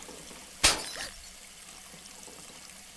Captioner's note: glass shattering